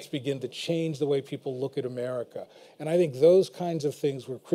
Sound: none

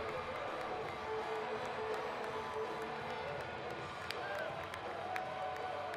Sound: people cheering and clapping

